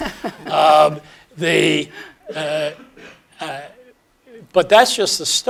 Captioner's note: laugh